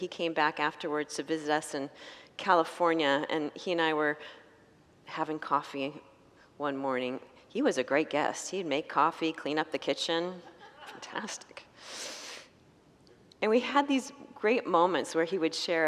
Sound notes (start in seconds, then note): 10.5 congregants laugh